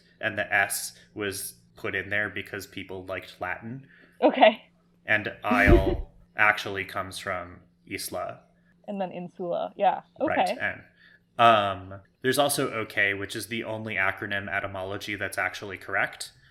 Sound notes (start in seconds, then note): 5.5 laughs